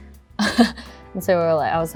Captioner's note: laughs